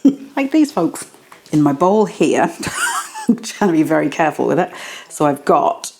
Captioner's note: laugh